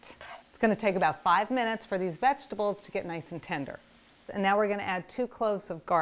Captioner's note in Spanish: crepitando